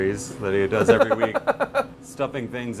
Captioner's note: laughing